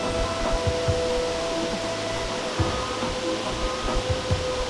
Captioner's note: pan rider whirling